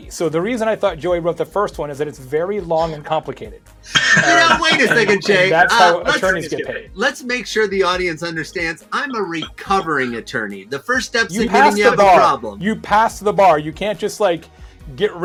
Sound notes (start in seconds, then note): 3.9 laughing